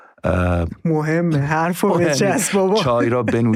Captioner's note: laughs